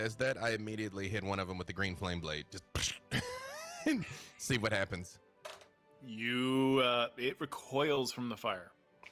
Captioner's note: psh sound